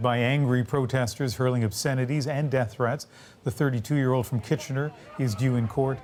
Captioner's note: chanting